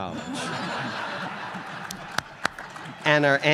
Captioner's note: audience laughs